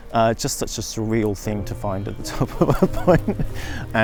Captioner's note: laughs